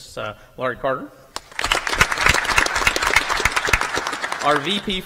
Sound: applause

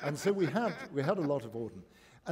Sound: laughter

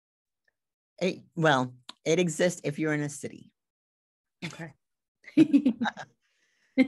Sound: laughs

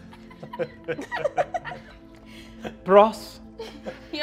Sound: all giggling

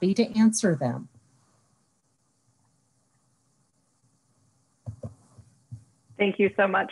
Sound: silence

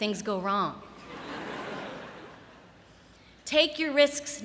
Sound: laughter

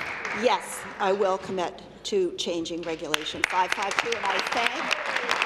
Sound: applause

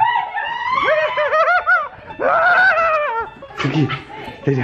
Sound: screaming

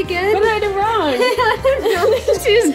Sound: laughs

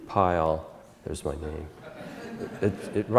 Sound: audience Laughter

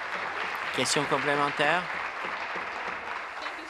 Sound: voice trailing; applause

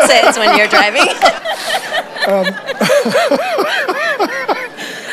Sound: congregation laughs

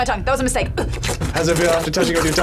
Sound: slurps

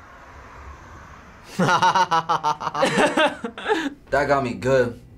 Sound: laughs

